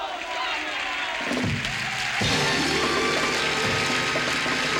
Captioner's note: applause